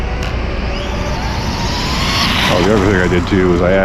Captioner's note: electric motor screaming